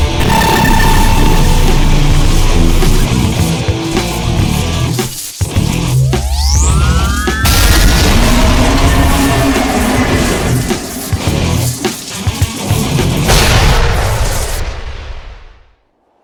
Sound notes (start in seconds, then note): 5.9 sword whirring; 7.4 explosion booms; 8.0 beast roars; 13.2 explosion booms